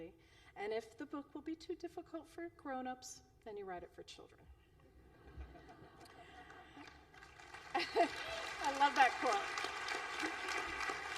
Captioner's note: applause